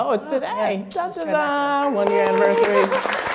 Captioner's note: clapping